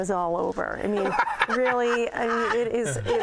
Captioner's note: laughter